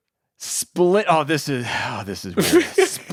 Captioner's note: sighs; laughing